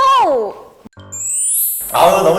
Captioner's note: twinkly chime sound effect